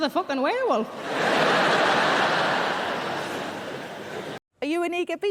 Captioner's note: audience laughing